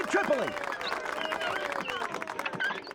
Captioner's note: crowd cheering